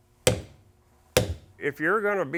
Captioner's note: hammer bangnging